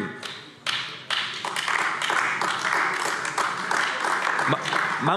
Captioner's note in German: Beifall AfD